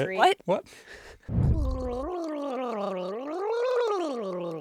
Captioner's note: gurgling